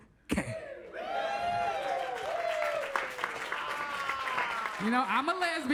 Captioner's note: audience cheers and claps